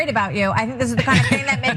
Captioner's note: laugh